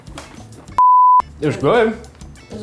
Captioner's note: beeping